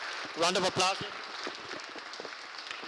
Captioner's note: applause